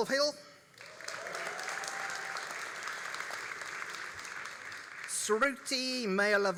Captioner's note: all applauding and cheering